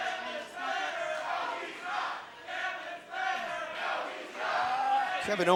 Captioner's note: fans chanting